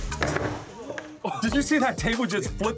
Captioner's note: clatter